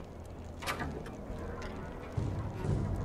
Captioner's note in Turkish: Kapı Sesi